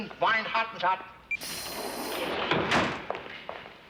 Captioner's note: swooshes